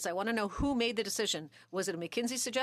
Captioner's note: speaking French